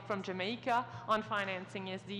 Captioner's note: speaking in french